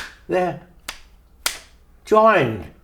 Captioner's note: claps